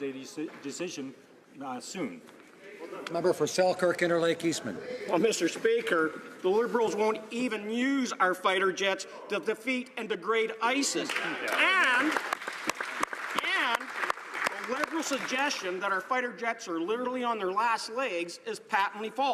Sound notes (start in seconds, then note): 15.5 some Applause